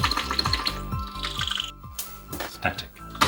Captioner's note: sparking